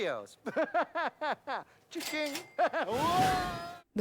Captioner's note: laughing